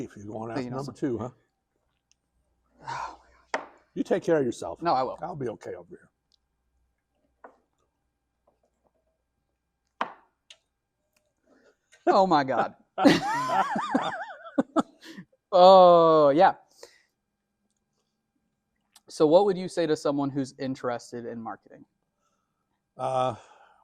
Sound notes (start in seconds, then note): 13.0 laughter